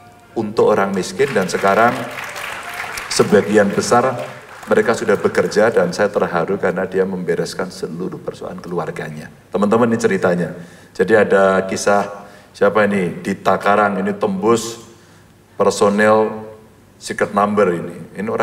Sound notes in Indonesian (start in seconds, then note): 0.8 tepuk tangan